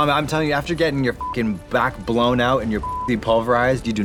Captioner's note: beep